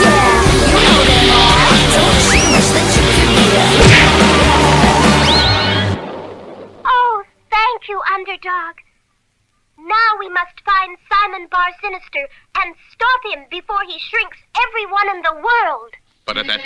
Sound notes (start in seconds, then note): 2.9 crash!